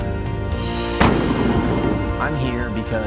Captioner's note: loud gunshot